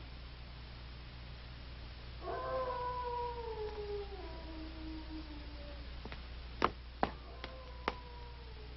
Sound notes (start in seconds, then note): 2.2 wolves howling